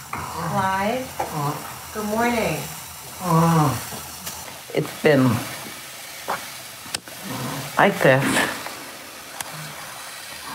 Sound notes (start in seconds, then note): 3.0 moaning